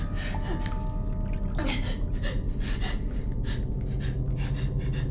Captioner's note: Ura sobs